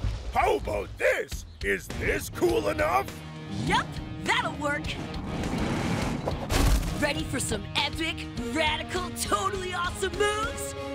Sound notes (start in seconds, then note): 3.1 engines revving